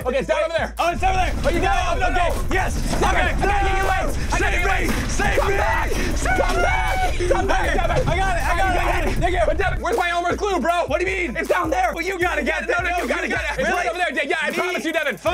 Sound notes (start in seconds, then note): 2.0 screaming; 3.3 items clattering; 13.0 screaming